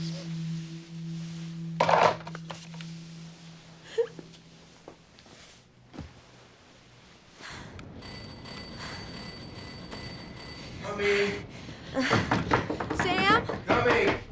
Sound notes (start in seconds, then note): 3.8 sobbing; 7.8 kerry panting; 8.0 ringing